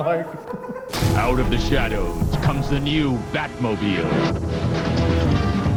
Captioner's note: voiceover; dramatic foreboding music